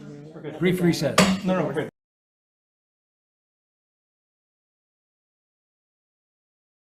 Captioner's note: gavel taps